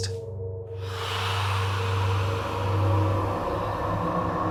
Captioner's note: eerie noises